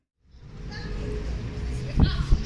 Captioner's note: traffic & loud femal voice